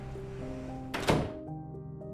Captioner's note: door closes